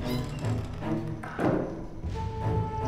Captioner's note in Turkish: Kapı kapanma sesi